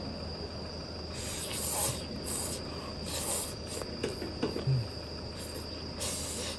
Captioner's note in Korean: 맛잇는 소리